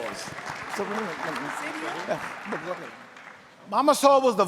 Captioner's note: panel chattering